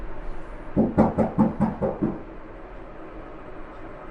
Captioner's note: knocking